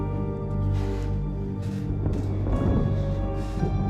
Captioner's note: heavy breathing